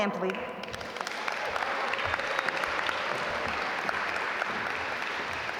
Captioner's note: audience applaud